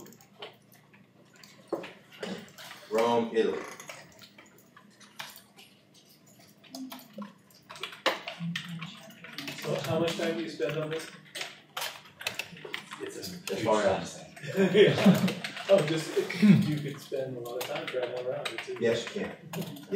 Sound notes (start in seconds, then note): 14.4 laughter